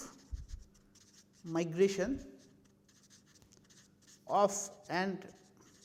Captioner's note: Scratch